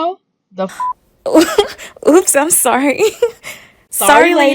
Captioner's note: giggles